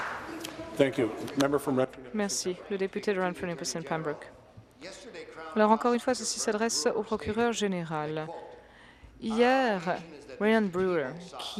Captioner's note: applause